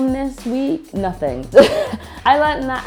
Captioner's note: laughs